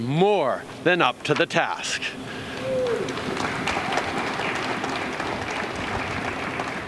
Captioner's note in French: Applaudissements